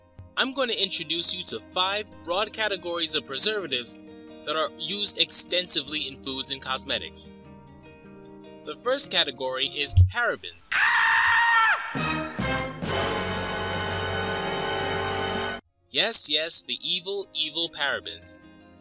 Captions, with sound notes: I'm going to introduce you to five broad categories of preservatives that are used extensively in foods and cosmetics. The first category is parabens. (screams) (dramatic music) Yes, yes, the evil, evil parabens.